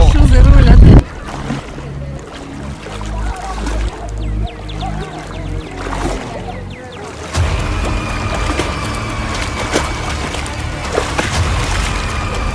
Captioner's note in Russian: шум моря